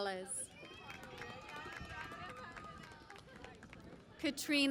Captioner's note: cheering and Applause